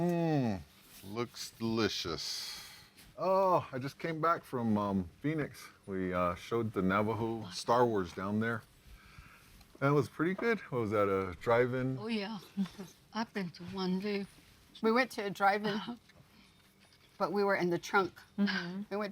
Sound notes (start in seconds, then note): 2.4 exhales